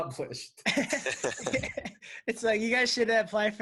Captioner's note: laughing